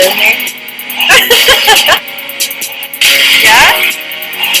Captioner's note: laughter